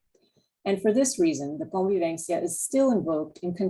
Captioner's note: spanish